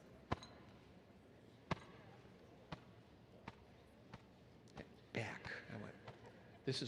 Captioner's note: hand patting